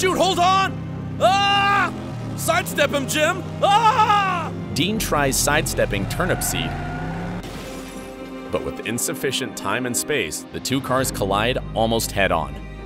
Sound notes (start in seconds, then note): 1.2 James Dean screams; 3.6 Rolf screams; 7.5 cars crashing